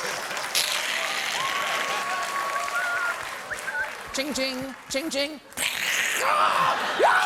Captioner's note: applause